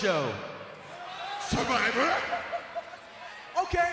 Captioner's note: Kofi laughs